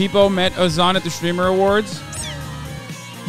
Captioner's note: Peepo sqeaks